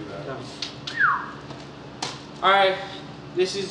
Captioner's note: whistles